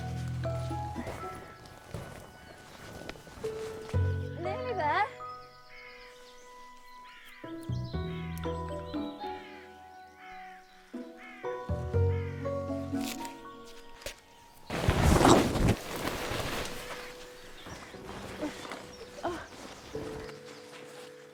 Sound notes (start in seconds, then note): 0.1 gentle orchestral music; 7.6 gentle orchestral music continues; 14.6 tent thudding; 18.5 Anna grunting